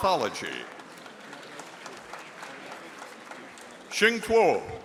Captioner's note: audience applauding